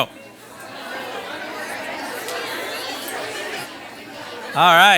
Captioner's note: participants conversing